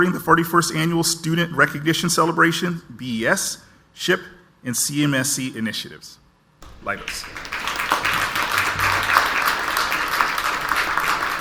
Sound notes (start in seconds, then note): 6.6 audience applauds